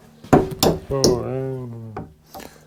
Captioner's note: hammering